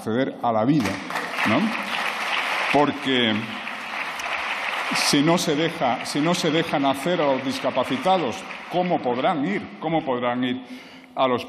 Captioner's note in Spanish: aplausos